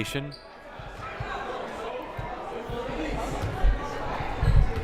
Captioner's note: crowd murmuring